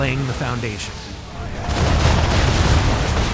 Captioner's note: explosions